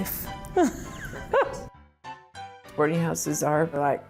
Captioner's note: laughs